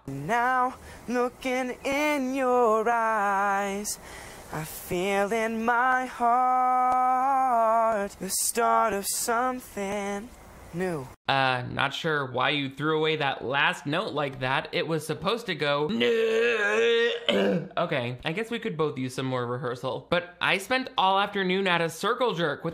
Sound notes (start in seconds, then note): 15.7 growling